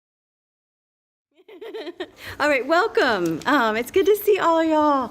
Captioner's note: laughs